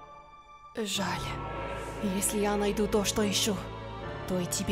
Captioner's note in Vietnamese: Tiếng Nga